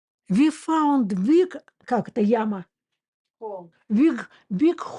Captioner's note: Russian